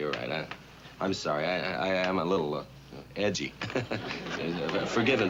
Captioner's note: chuckles